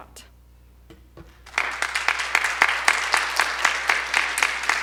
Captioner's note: audience applause